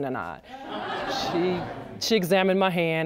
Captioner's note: audience laughs